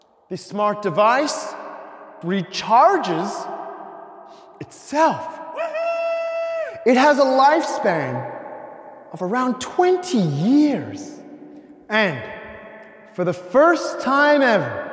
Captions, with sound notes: This smart device recharges itself. (audience member whooping) It has a lifespan of around 20 years. And for the first time ever,